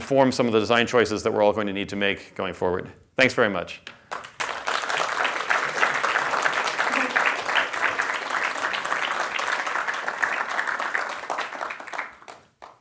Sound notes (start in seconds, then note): 6.8 applause